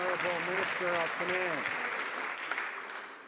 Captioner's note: some Applause